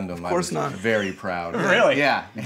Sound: laughing

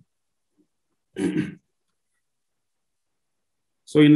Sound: clears throat

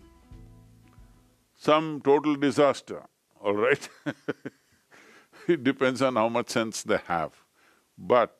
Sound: laughs

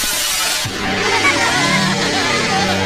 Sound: Minions Sobbing

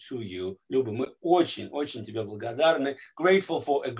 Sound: speaking Russian

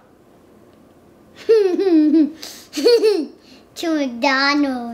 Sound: laughing

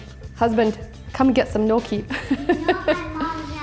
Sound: laughing

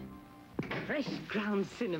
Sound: oven door opens

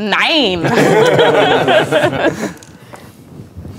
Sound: players laughing

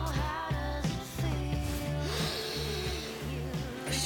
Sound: inhales sharply

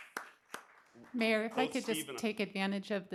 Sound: applause

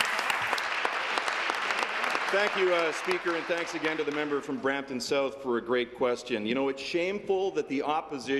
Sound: applause

